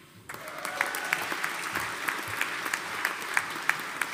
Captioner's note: audience applauding